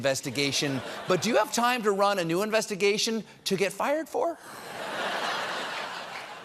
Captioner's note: laughter